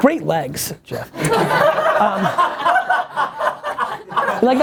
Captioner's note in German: Lachen